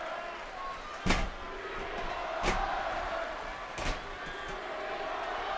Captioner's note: audience continues chanting